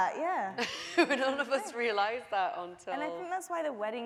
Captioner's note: laughing